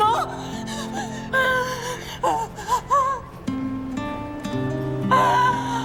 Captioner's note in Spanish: Solloza